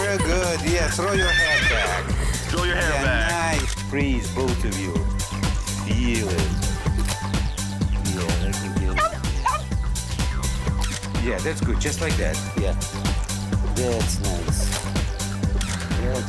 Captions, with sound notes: Good, yeah, throw your hat back. (horse whinnying) - Throw your head back. - Please, both of you, feel it. Yes. (puppy barking) Yeah, that's good, just like that, yes. That's nice.